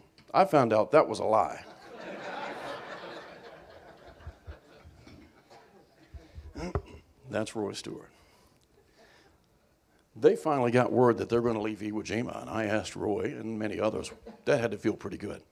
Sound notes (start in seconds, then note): 1.6 laughter